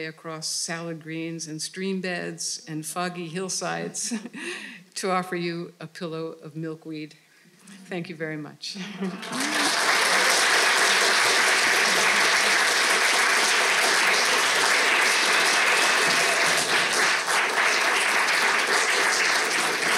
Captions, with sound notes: across salad greens and stream beds and foggy hillsides to offer you a pillow of milkweed. Thank you very much. (audience clapping)